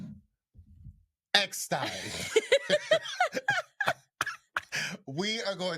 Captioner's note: both laughing